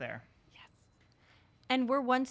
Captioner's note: whispered